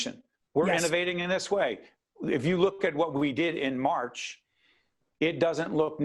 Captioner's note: none